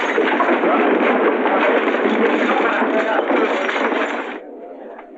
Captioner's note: chatter